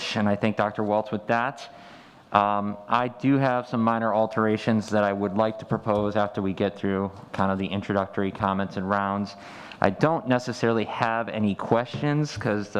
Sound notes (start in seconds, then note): none